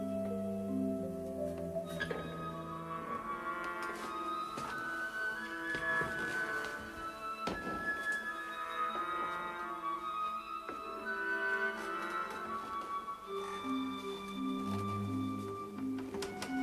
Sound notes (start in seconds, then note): 11.7 creaking